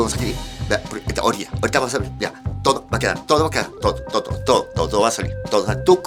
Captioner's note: rants in velvetine language